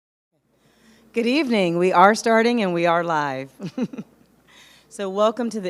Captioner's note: laughs